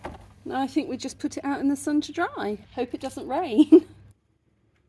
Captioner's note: laughing